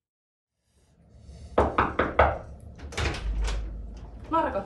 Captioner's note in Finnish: koputuksia